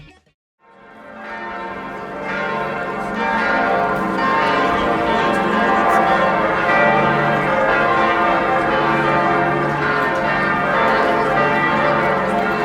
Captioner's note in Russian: звон колоколов